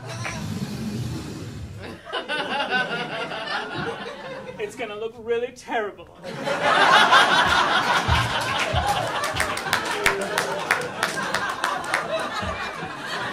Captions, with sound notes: It's gonna look really terrible. [audience laughing]